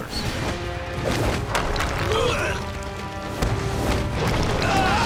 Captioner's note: enemies grunting